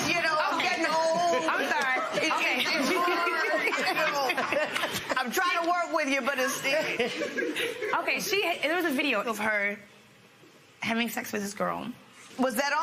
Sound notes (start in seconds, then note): 3.0 laughter